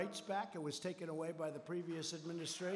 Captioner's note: applause